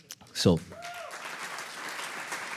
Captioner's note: audience applauds